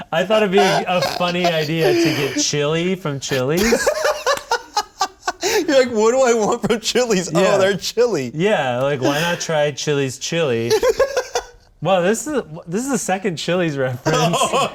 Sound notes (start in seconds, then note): 3.3 laughing harder